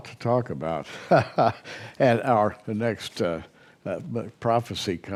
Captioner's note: chuckles